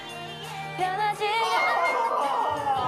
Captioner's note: agh!